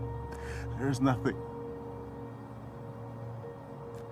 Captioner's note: gasps